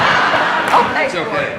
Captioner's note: audience laughing